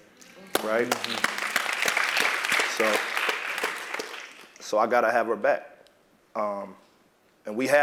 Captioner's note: applause